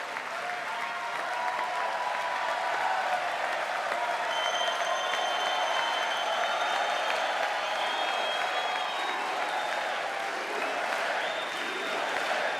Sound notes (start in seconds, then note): 5.7 cheers and applause